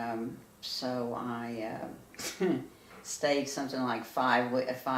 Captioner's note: laughs